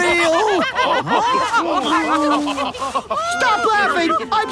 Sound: all laughing

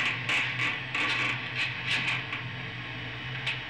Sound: creaking

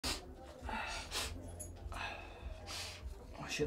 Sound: sniffing

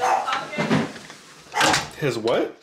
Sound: door closes

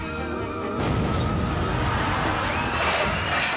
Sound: explosion

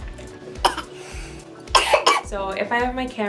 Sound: coughing

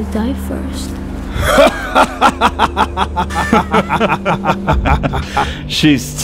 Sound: henchmen laughing

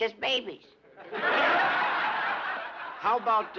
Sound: laughter

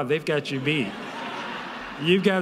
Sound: audience laughing

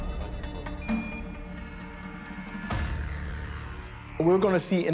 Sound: thermometer beeps

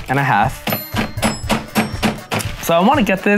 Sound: bell dinging; mallet smashing

